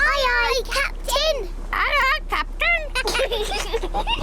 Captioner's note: children giggle